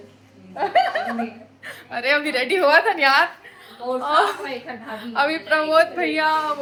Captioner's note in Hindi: हंसी